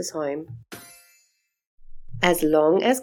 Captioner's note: chime sound